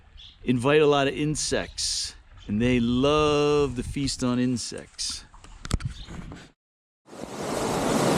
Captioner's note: water rushing